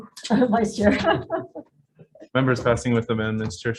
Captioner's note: laughs